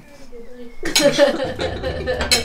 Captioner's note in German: Sie lachen